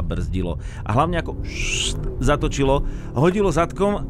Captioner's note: fssst